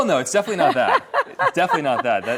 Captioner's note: laughs